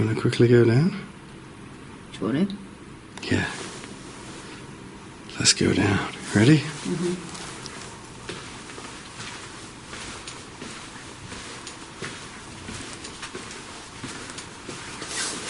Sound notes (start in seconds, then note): 9.2 boots thumping